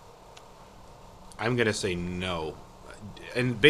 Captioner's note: voiceover